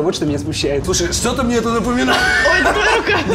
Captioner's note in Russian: смеётся